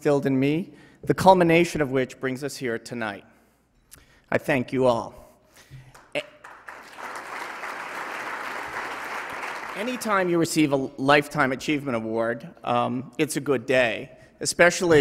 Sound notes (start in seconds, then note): 7.4 applause